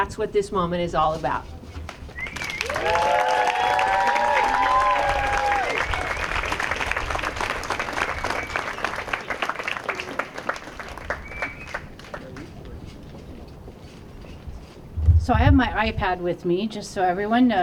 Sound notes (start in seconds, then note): 2.2 applause